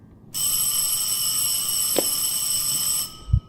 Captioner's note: dismissal bell